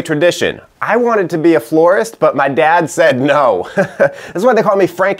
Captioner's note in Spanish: Risas